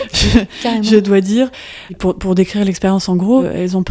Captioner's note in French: Rires